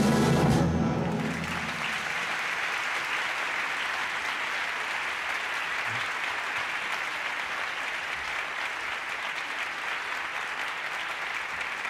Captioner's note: applause